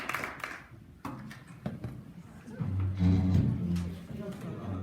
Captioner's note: chairs moving